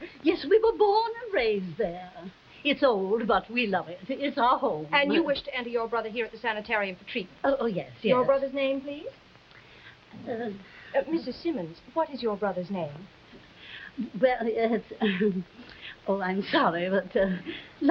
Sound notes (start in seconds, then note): 14.3 Veta stammering